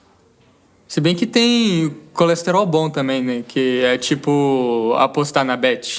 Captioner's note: none